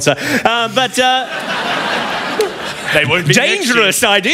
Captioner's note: laughter